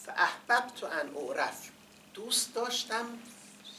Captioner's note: quoting in Arabic